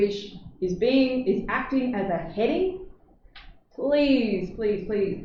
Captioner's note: none